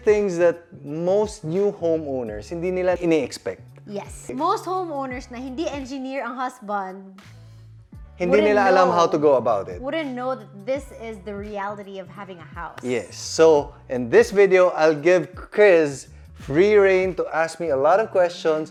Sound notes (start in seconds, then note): none